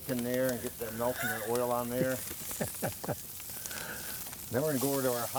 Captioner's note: laughs